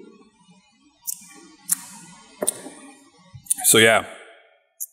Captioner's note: lips smacking